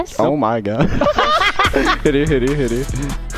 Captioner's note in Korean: 웃음